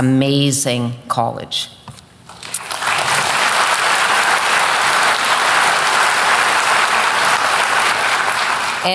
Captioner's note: applause